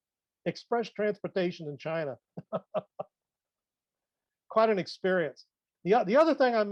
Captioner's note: laughs